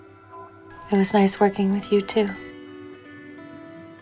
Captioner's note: voiceover